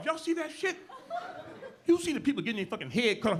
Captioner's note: audience laughing